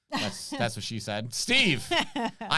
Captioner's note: chuckles